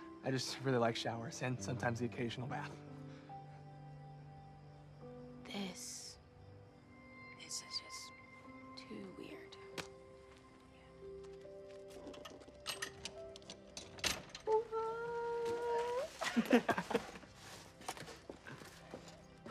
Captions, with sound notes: I just really like showers and sometimes the occasional bath. This... This is just too weird. Yeah. [Alex squeals] [guys chuckle]